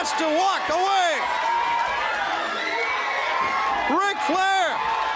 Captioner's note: crowd cheering